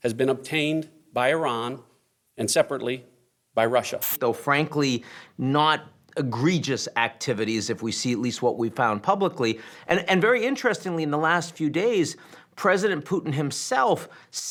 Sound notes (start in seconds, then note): 3.9 static hissing